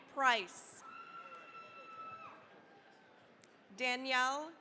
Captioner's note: cheering, applause